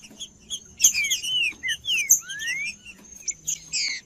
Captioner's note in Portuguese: trinca ferro cantando